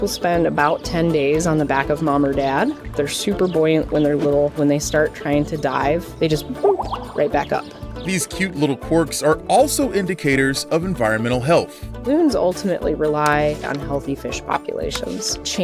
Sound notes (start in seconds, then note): 6.7 pop